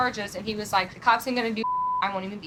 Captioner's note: beep